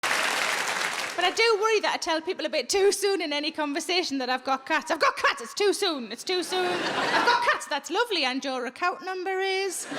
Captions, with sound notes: (audience applauding) - But I do worry that I tell people a bit too soon in any conversation that I've got cats, I've got cats! It's too soon, it's too soon. (audience laughing) I've got cats, that's lovely and your account number is?